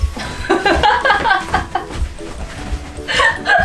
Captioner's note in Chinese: 爆笑